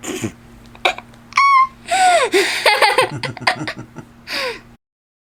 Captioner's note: laughing